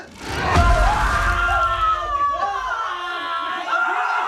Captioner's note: family screaming; Jaime screaming